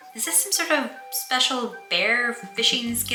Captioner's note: none